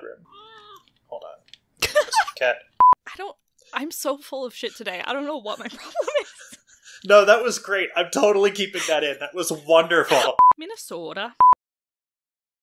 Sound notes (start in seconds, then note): 1.8 laughs; 4.4 laughing